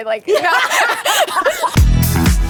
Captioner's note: laughter